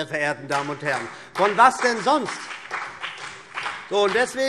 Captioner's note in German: Beifall BÜNDNIS 90/DIE GRÜNEN und vereinzelt CDU